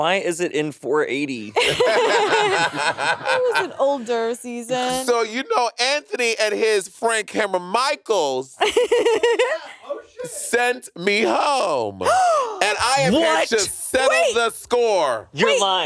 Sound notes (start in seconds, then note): 1.5 all laughing; 8.6 laughing; 12.0 gasping